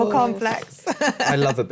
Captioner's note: laughs